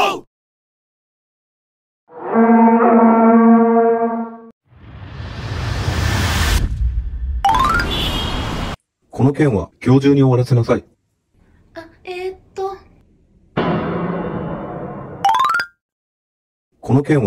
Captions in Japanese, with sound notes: プォーーー（ホラ貝の音ww） ストレス発散方法はいかに！